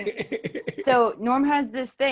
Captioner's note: laughs